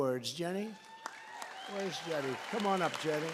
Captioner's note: applause